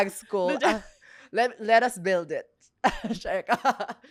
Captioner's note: laughs